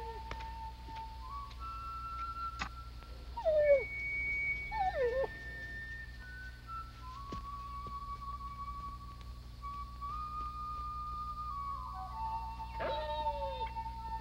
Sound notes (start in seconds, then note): 4.4 whimpering